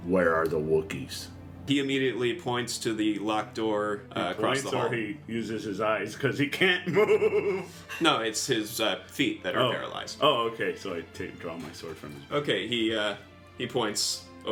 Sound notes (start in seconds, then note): 6.8 laughs